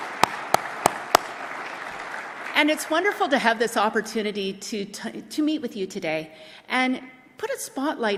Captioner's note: applause